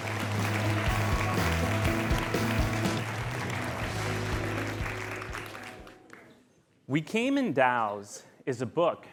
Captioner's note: applause